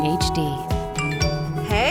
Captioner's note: phone notification